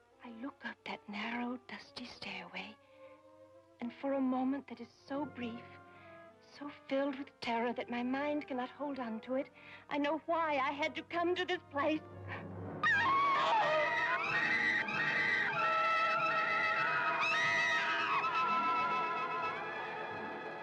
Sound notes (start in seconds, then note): 12.8 woman screaming; 17.1 eerie dramatic music